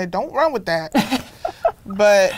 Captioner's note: laughs